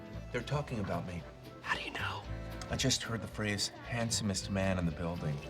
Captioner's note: whispers